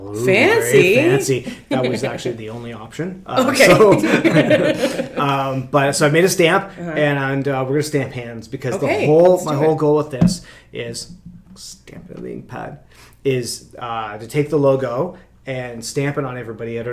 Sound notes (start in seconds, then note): 3.4 chuckles